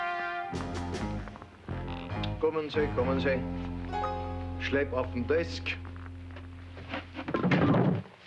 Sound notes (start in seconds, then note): 1.6 speaks foreign language